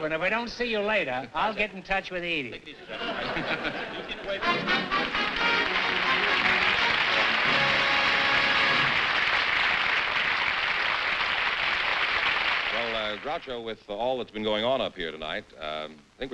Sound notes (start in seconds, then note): 2.8 laughter; 4.2 upbeat music; 6.1 applause